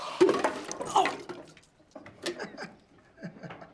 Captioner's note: water sloshing